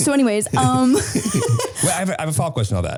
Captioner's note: laughing